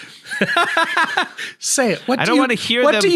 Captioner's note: laughing